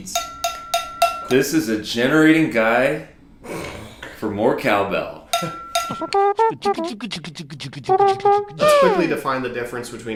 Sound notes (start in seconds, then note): 0.1 cowbell clanking; 5.3 cowbell clanking; 6.3 imitating horn